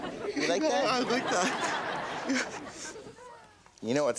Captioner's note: audience laughs